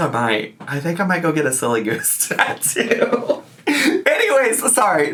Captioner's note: laughs